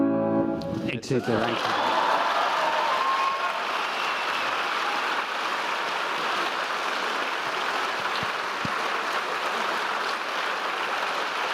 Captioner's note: applause